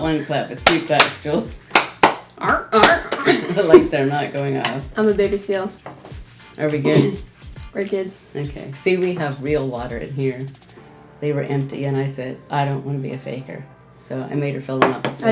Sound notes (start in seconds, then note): 0.6 hands clapping; 2.6 seal barking